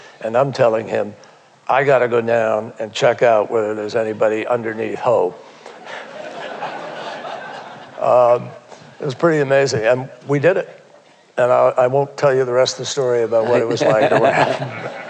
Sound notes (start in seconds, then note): 5.7 laughter